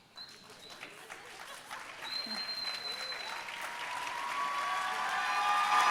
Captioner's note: audience applauding and cheering